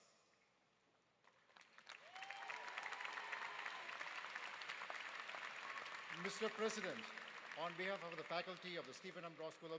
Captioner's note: applause